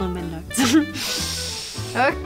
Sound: sniffs

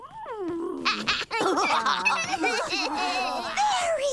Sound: laughing

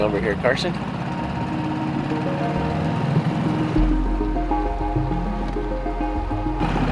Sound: boat spluttering; dramatic music

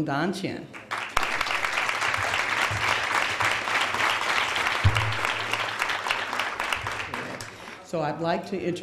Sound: applause

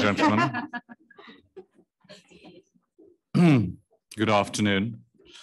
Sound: panelist laughing

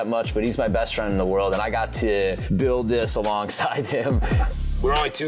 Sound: laughing

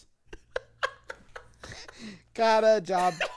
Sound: laughter

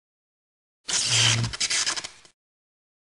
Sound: sparking sound

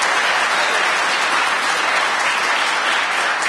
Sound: applause

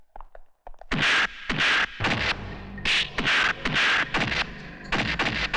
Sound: fighting Sound

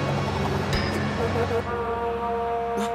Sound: vuvuzela blowing

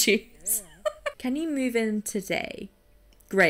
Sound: laughs

